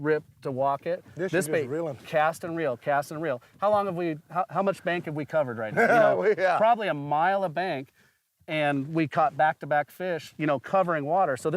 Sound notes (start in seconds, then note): 5.7 laughs